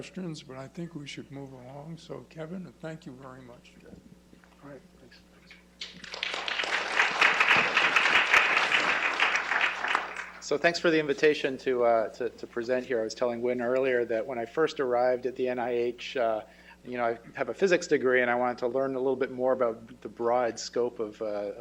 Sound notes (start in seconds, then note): 5.8 applause